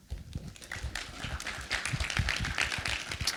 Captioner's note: applause